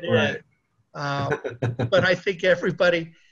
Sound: laughing

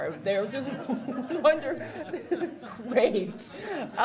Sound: audience laughs

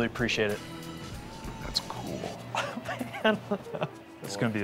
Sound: chuckles

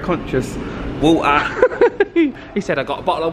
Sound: laughs

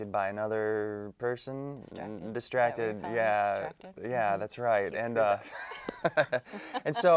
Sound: they Laugh

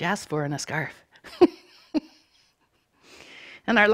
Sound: chuckling

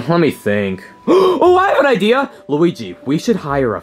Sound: gasps

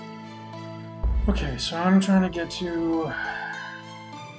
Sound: sighs

